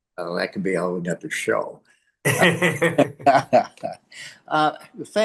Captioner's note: laughs